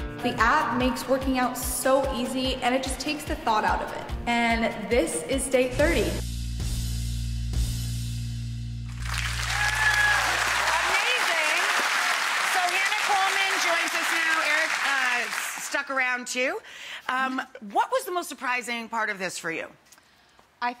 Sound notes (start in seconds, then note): 6.5 upbeat music; 8.8 audience clapping and cheering